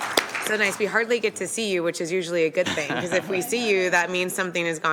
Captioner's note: applause